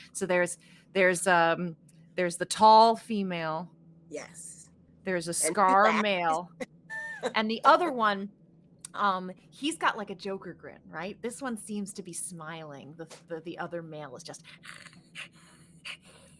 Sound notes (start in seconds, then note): 14.5 hisses